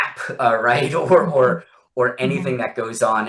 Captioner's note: laughs